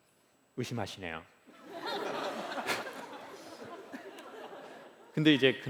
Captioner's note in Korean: 웃음